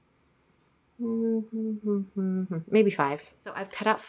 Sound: humming

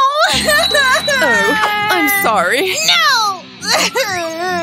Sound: crying

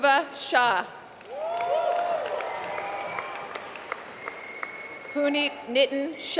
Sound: applause

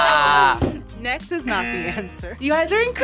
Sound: laughs; buzzer

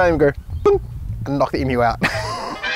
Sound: bonk

